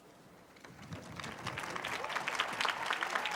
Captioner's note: applause